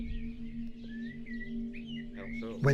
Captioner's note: bird noise